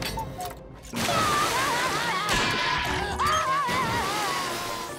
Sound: crying

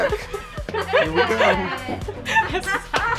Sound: laughing

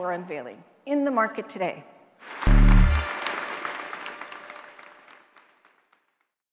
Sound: audience applauds

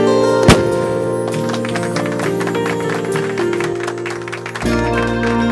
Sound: applause

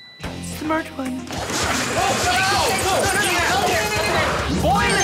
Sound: arguing

